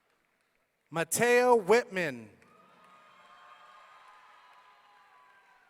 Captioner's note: audience cheering